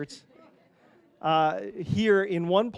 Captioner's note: panelists laughing